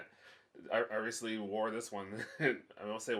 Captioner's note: laughs; laughs